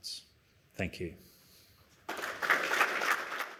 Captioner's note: applause